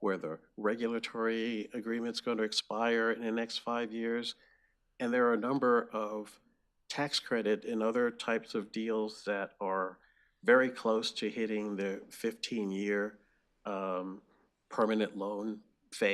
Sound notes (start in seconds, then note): none